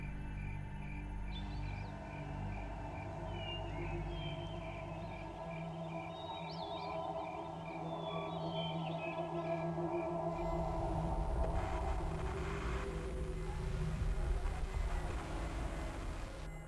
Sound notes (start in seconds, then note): 8.2 ominous music; 12.0 static buzzing